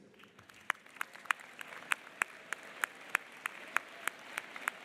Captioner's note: audience applauding